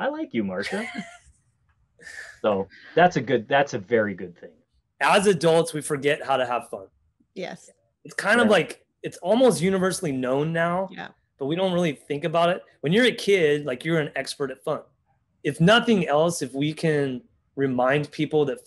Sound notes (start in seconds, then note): 0.6 laughs